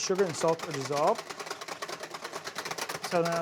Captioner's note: whisk rattles